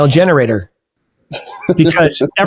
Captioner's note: laughing